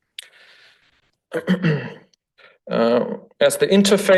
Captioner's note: throat clears